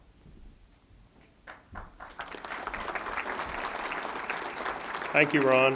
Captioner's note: applause